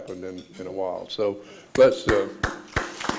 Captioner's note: clapping; audience applauds